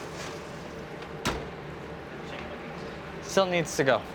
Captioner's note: oven door shuts